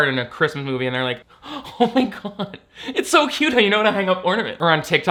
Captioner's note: laughs